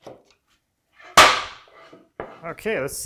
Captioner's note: plank on desk clacking